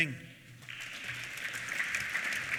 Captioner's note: applause